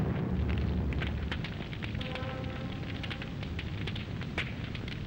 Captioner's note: fire crackling